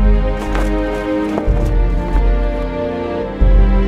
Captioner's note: cloth flapping